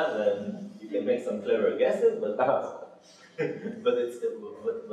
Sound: laughing

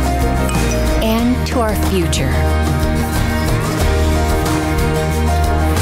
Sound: notification chiming

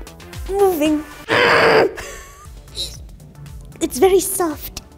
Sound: grunts

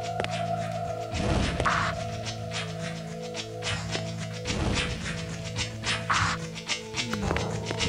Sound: fire shooting

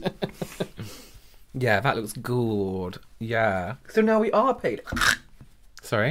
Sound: chokes on powder

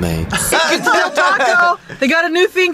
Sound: both laugh

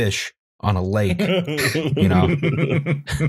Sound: laughter

